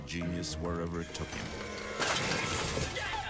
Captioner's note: machine thuds